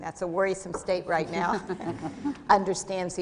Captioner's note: laughter